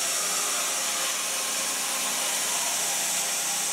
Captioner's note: saw whirring